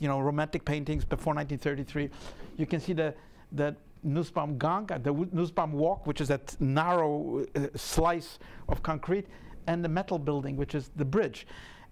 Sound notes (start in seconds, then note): 3.6 speaking in a foreign language